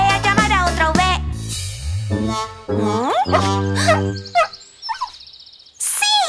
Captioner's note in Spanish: Ladrido